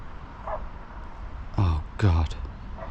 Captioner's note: dogs barking